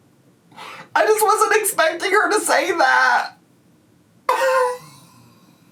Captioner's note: chortles